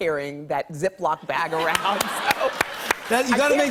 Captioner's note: laughter and applause